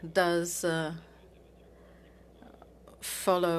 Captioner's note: speaking French